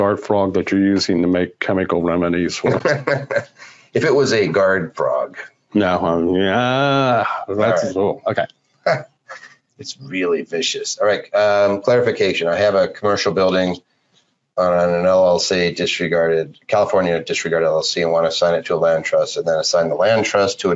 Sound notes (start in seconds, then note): 2.5 laughs